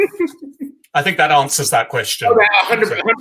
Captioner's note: laugh